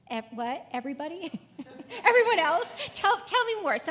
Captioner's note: laugh